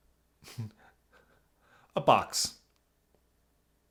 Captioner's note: chuckles